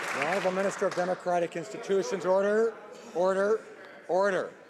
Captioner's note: applause